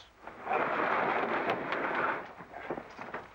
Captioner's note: boxes sliding